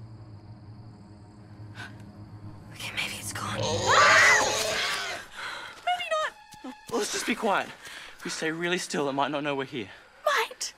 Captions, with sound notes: Okay, maybe it's gone. -[razorback squeals] -[scream] Maybe not. Well, let's just be quiet. If we stay still, it might not hear us.